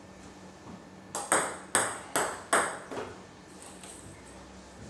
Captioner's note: ball ping pong hitting continues